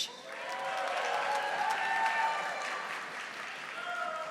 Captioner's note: audience applauding